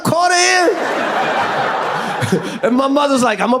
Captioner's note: audience laughs